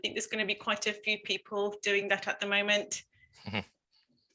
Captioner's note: laughs